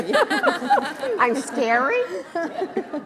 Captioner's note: laughs